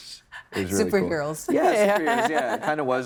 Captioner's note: laughing